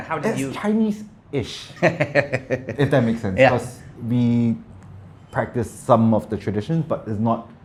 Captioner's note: laughing